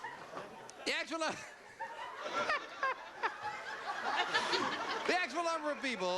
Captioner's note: laughing